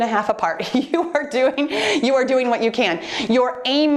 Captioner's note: laughing